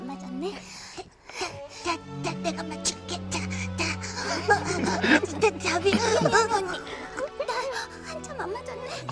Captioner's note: gasp